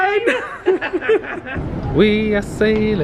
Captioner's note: both laughing